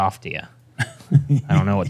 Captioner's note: chuckles